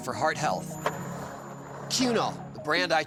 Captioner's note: skateboard wheels roaring